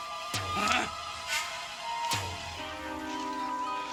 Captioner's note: man grunting